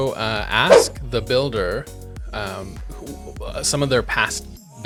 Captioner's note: air whooshing